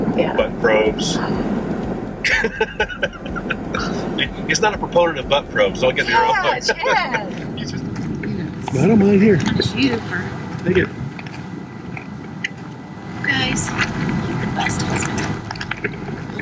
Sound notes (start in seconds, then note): 1.4 gasps; 2.2 laughs